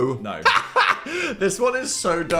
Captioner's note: Dan laughs